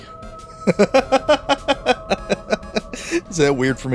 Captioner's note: laughing